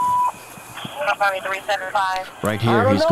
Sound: radio dispatching in background

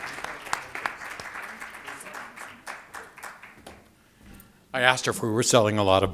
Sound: applause

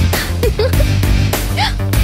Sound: laughs

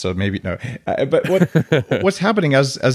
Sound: Adam laughing

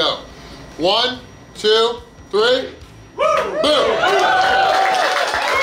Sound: crowd cheering

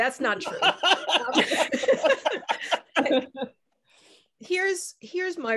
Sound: laughing

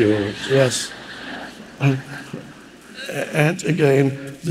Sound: audience laughing

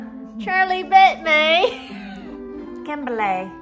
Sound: laughs

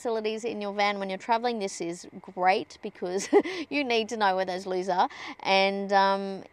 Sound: scoffs

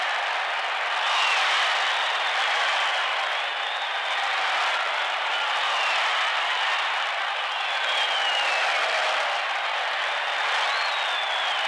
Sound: applause, cheers

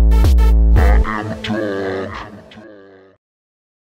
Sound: low voice

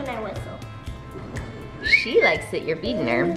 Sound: whistling

